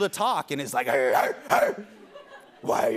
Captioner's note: barking